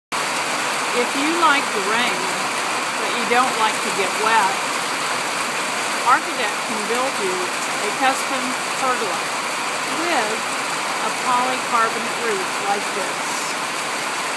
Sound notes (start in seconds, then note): 9.0 sound of rain